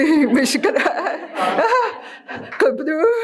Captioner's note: laughing